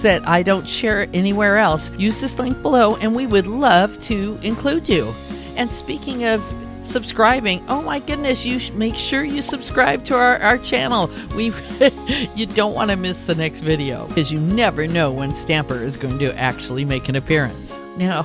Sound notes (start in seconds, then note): 11.7 laughter